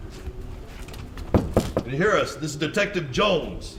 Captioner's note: knocking